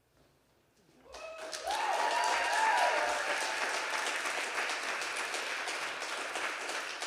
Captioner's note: everyone applauding and cheering